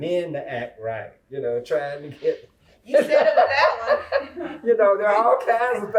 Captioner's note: laughter